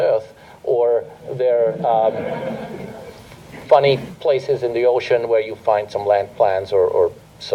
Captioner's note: laughter